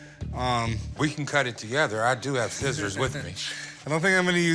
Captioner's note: chuckles